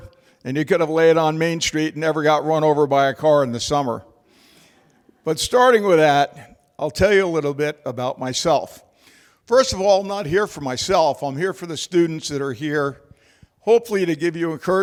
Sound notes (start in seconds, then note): 4.7 laughter